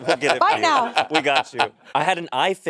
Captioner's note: Monét laughing